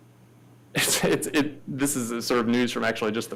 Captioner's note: laughs